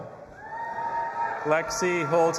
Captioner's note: audience applauding and cheering